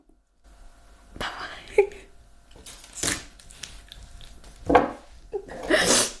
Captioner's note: crying